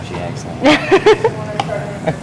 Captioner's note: student laughs